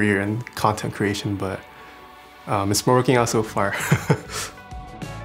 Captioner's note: laughs